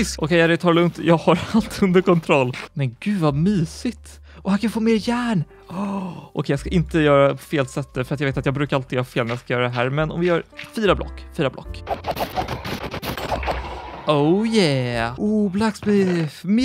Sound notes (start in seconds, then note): 5.6 gasp